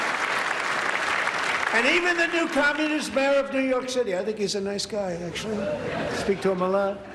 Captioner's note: applause